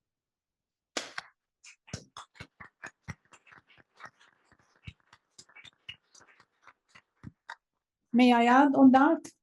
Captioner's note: applause